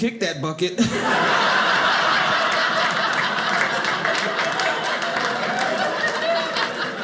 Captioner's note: audience laughing